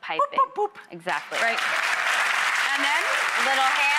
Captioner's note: audience applauding